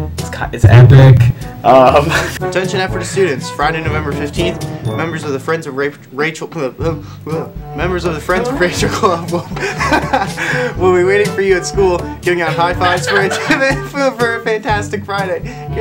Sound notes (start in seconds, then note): 6.9 stammering; 8.8 laughter; 15.3 laughter